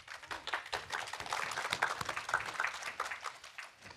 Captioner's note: audience applauds